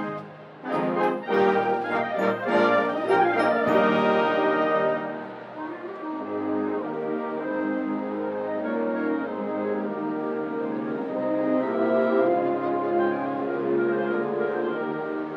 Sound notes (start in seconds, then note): 5.6 crowd cheering; 8.2 flowing wind music